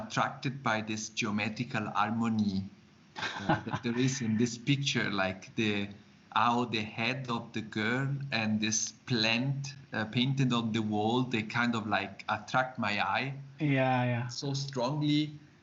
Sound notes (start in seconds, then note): 3.2 laughs